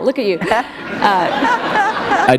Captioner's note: laughter